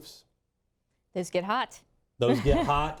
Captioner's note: laughs